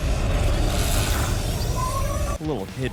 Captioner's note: enigmatic whirring; beam wailing; beam crackling